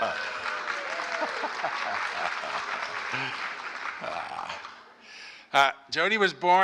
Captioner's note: applause